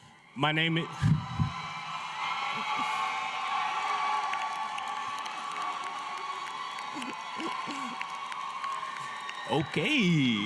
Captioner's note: applause; applause